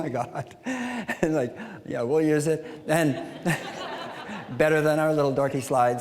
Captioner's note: audience laughing